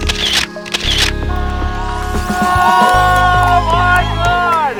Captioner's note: VERY excited voices!